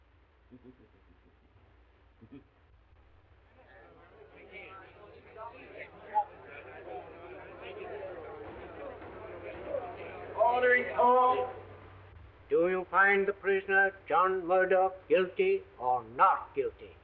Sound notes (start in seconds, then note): 0.4 chuckling softly; 3.4 people chattering; 7.6 gavel banging